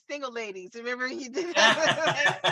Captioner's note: laughing